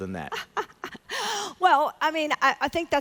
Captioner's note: laughs